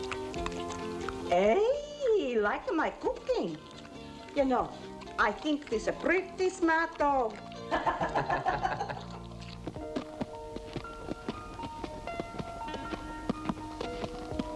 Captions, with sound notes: Hey, he like my cooking. You know, I think this a pretty smart dog. (all chuckling) (tender piano music)